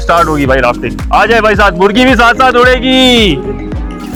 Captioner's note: drone